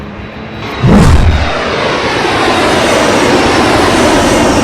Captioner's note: jet engine roaring